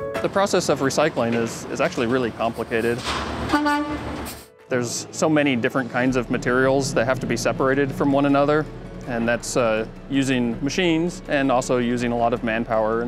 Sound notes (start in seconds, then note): 3.4 truck horn honks